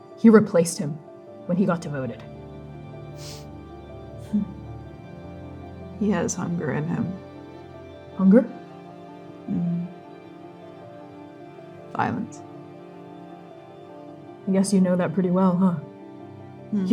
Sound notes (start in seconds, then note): 3.1 sniffing